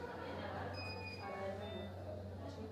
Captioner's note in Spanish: sonidos de aparatos médicos